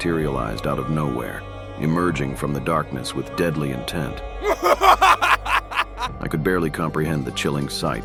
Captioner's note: evil laugh